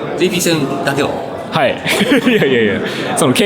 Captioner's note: laughs